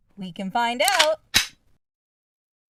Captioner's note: gun Prepped, Gun Shot